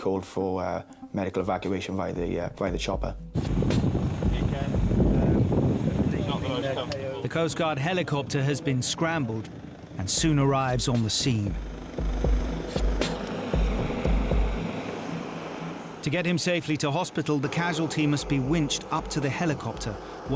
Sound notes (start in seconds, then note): 3.7 helicopter droning; 11.9 helicopter droning